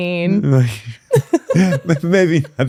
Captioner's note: laughing